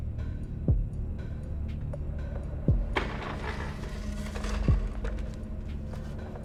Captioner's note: none